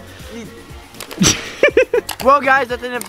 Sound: cameraman laughing

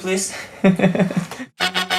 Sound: laughing; fanfare

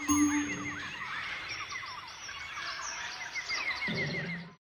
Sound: jungle sounds

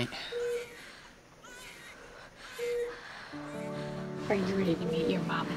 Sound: woman breathing deeply

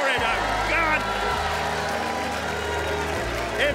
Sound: cheering

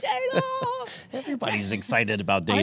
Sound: laughter

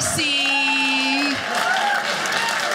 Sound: audience laughing

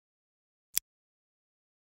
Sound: click

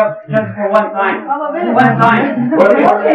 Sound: speaking Farsi

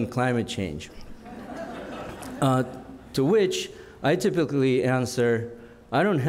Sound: laughter

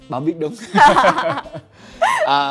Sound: laugh

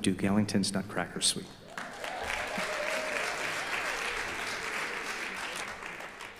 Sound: audeince applause

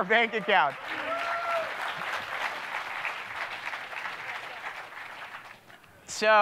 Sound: audience cheering

